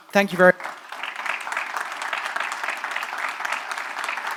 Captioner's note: applause